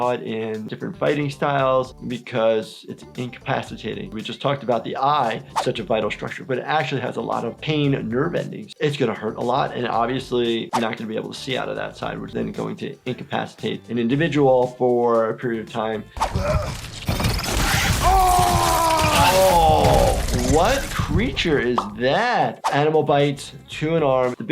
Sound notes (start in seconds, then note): 16.4 characters grunting; 17.7 characters screaming; 18.1 blows landing